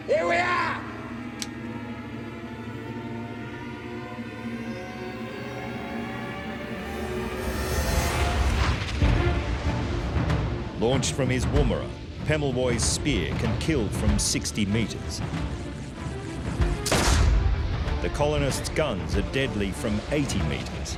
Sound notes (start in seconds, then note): 1.4 musket cocking; 8.8 thrilling music; 16.8 pistol fires